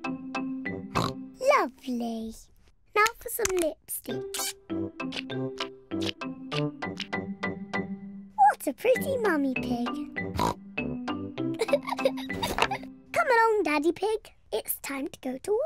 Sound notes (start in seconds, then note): 0.9 oinks; 10.3 oinks; 11.5 chuckles